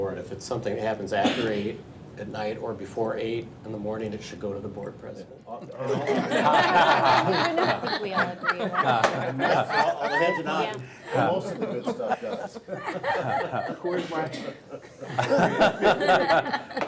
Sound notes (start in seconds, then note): 6.0 laughs